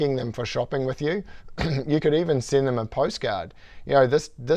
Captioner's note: cough